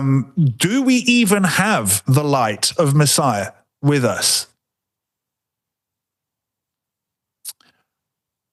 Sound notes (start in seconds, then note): 4.2 silence